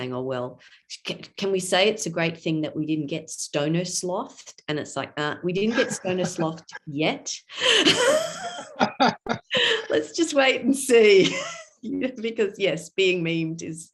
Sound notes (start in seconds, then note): 7.7 laughter